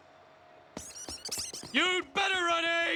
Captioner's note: comedy squeaky run